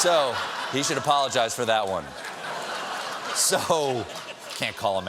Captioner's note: laughter